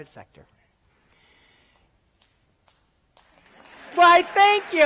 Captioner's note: applause